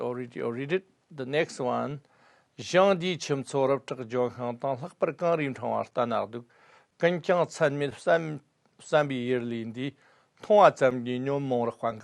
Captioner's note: tibetan